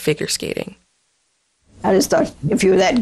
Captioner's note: soundbite of archived recording